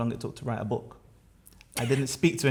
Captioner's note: laughter